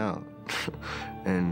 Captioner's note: chuckles